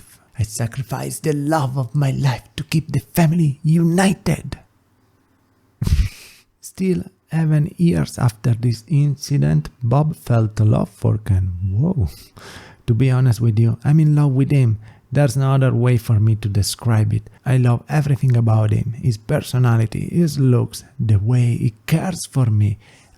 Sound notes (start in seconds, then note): 5.8 pfff